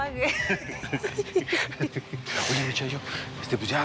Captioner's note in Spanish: risas